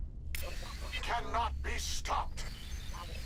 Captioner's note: static